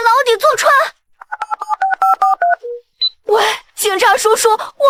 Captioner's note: beep beep beep beep